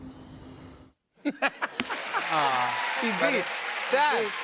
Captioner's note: laughter and applause